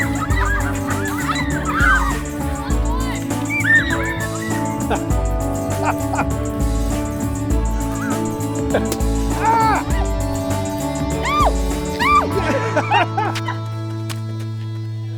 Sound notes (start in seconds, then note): 3.4 Jerry laughing; 3.4 campers shouting; 9.3 couple shouting; 9.4 balloon splatting; 12.0 Jerry laughing